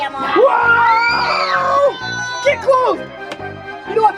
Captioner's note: screams